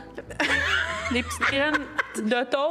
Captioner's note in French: rire